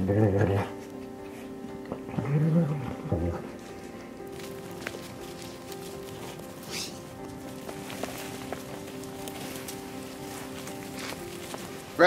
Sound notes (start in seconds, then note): 4.1 crunching snow